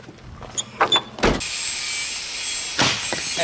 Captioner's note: slams tailgate; chops firewood